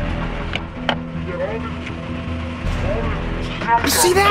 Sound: tense music; car door opening

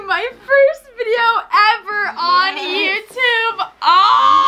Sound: laughs

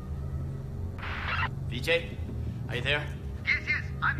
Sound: radio static

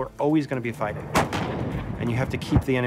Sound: shot firing

